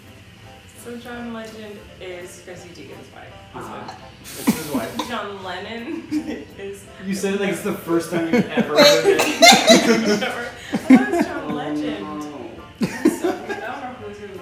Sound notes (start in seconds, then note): 8.2 laughing